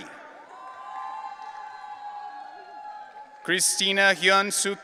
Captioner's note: audience cheering